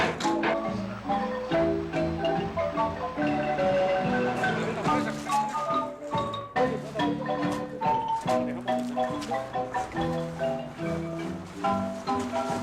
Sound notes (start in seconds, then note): 4.4 foreign language